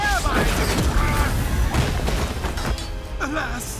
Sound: thuds

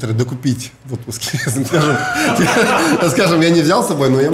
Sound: both laugh

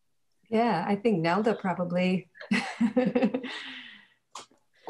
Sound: laughs

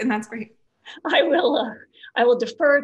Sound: laughs

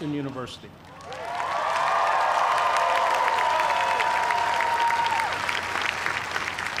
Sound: cheers and applause

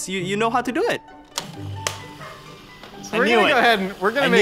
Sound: blender whirring

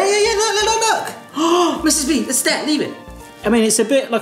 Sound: gasps

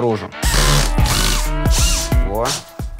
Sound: whirring

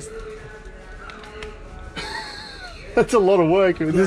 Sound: laughing

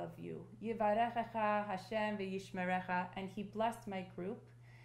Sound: speaking hebrew

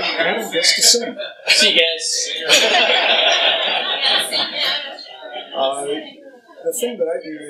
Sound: laughter

